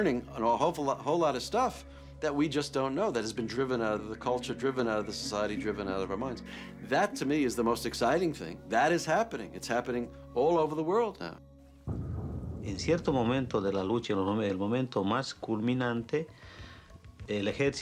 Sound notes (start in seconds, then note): 11.8 dramatic music; 12.0 speaking foreign language